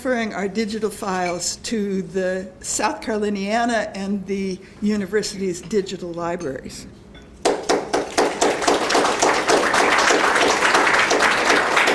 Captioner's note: applause